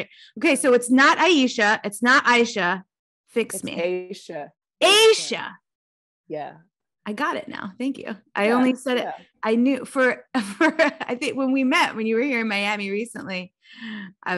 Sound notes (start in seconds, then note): 10.3 laughing